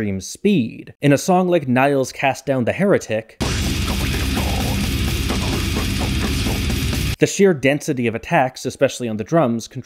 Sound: bang

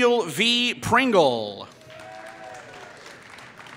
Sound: applause

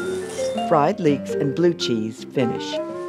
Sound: voiceover

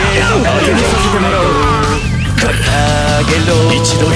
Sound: fatal scream

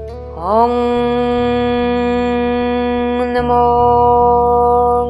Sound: chanting in foreign language

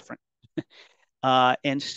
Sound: chuckles

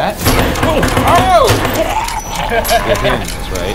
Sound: object banging; choking; laughing

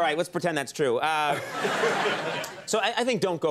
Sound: crowd laughing

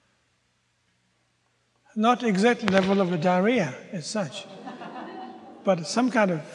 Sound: audience groans

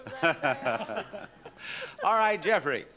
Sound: laughing

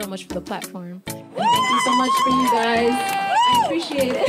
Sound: cheers and applause

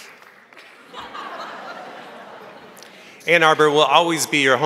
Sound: crowd laughing

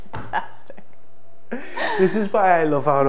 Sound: both laugh

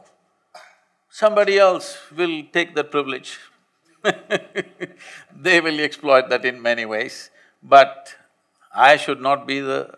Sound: laughs

